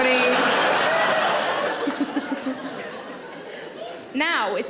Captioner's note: audience laughing